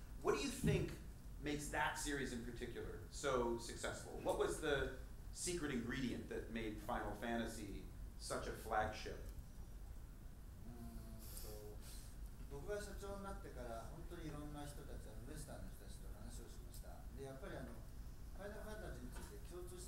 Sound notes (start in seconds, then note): 12.7 speaking in foreign language